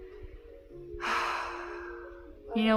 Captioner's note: defeated sigh